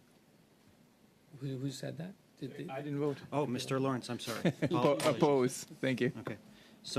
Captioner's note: speaking French